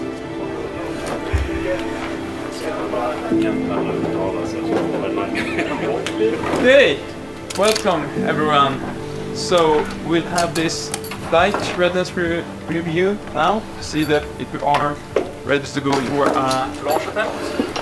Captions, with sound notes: (scientists chatter) - Hey, welcome everyone. So we'll have this flight rediness review now to see that we are ready to go for a launch attempt